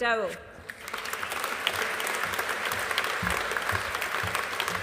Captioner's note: audience applauding